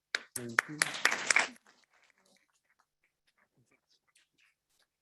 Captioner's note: audience clapping